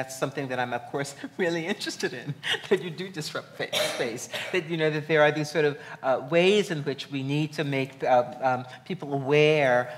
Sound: laughs

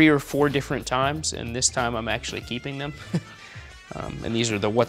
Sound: laughs

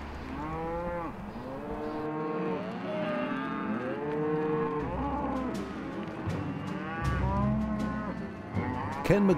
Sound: cows mooing

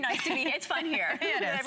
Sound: laughter

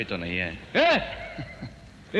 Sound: chuckles

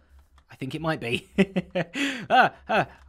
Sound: chuckles

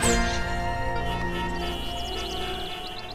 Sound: cars honk

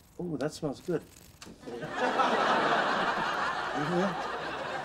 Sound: audience laughter

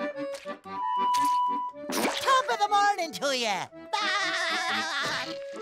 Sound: laughing

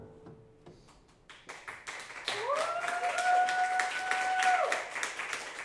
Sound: audience applauding

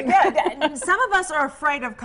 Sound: laugh

